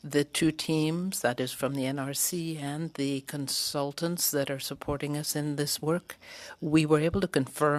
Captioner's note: speaking French